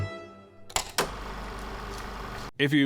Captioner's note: film reel flapping